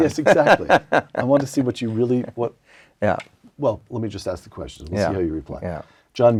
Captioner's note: laugh